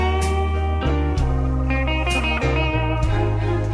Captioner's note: none